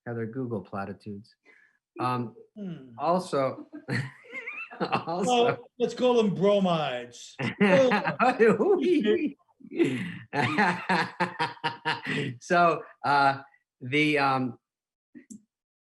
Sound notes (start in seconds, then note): 3.4 laughing; 3.5 giggling; 7.3 laughing